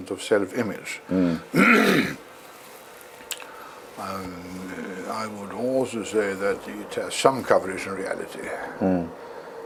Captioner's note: cough